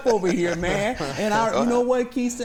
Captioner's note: laughter